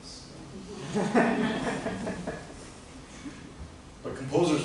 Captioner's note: laughter